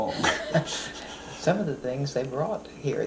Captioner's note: laughs